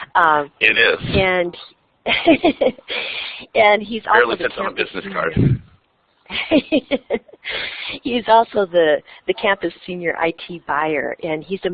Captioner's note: laughs